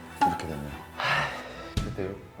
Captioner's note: sigh